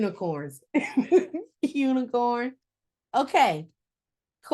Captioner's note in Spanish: ríe